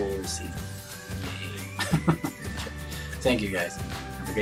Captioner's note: chuckles